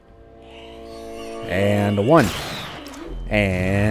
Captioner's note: bam